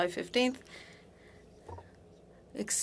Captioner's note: speaking French